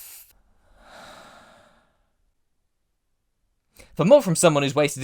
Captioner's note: deep breath